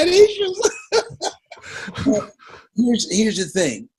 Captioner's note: Les laughs